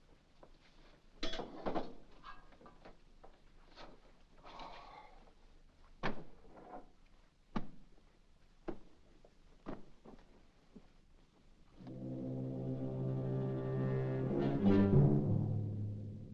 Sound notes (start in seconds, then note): 4.4 Saint Just sighs; 11.8 suspenseful music